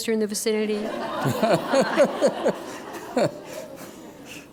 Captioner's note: laughter